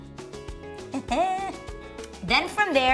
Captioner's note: chuckles